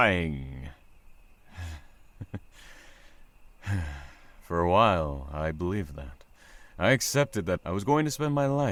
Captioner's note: sigh